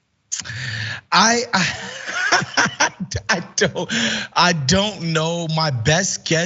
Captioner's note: laugh